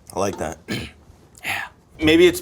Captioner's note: clears throat